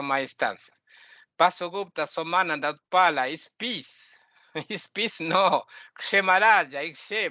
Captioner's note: laughing